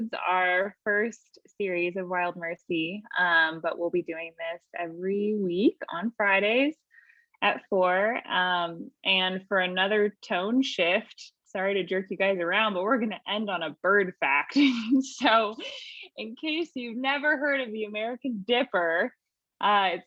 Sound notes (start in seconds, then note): 15.0 laughing